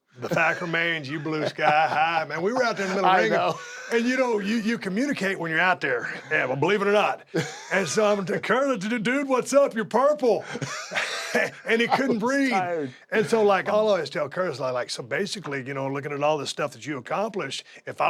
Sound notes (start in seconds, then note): 4.0 laugh; 10.3 laugh